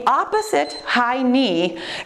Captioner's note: timer beeps